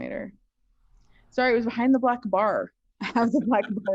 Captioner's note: laughs